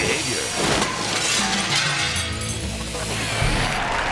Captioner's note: glass shattering; audience applause